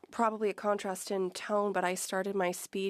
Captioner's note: speaking French